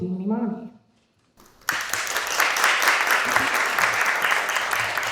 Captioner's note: audience applauding